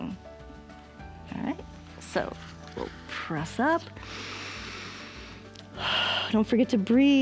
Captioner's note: inhales and exhales